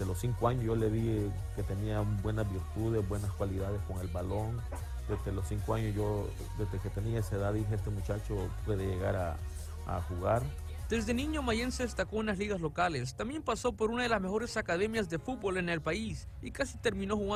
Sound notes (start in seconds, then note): 0.3 father speaking in Spanish; 11.2 speaking in Spanish